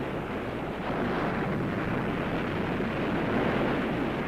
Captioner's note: waves roaring